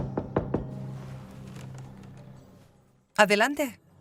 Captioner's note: door knocking